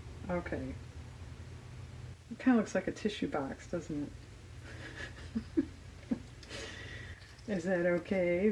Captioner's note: laughs